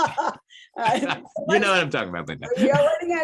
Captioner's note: laughs